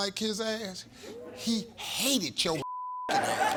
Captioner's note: beep